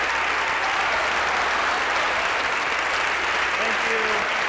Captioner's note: applause